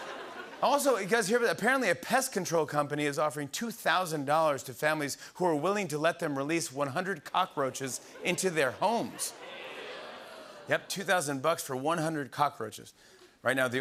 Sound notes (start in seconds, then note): 8.9 audience groans